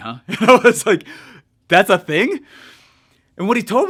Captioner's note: chuckles